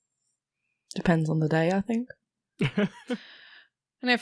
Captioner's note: Rik laughs